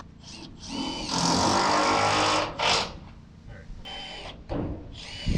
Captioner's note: drill rattling